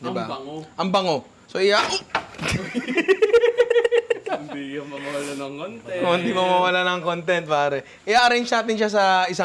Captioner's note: laughter